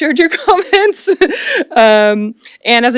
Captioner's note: laughs